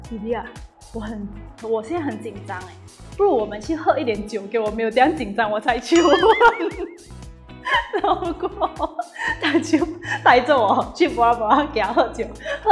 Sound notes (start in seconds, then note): 6.9 laughs